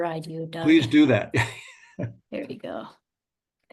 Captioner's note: laughs